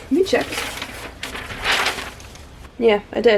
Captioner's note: paper rustling